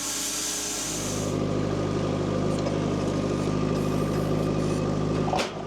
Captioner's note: machine rumbling